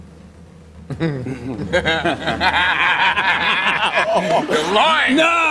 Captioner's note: laughter